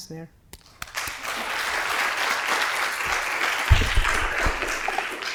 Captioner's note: applause